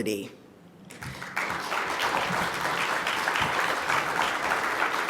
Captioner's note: audience applauds